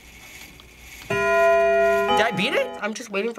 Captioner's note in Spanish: repique del reloj